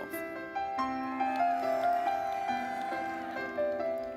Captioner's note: audience applauding; gentle music